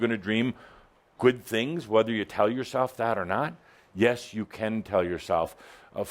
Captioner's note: none